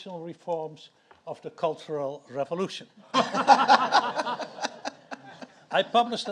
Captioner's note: audience laughs